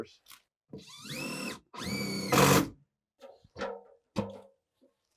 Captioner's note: power tool whizzing